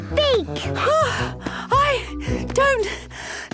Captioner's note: panting